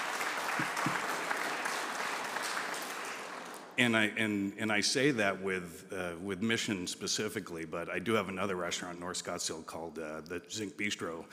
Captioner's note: applause